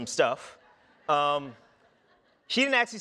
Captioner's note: audience laughing